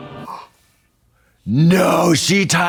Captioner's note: Trixie gasps